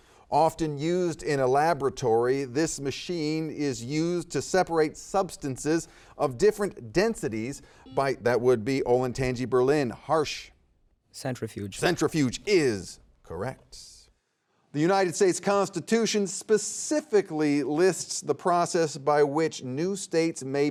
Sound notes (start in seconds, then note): 7.8 buzzer beeping